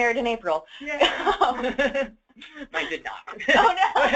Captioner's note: laughter